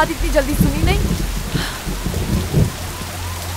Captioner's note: Gauravi exhales